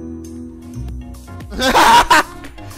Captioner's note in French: rire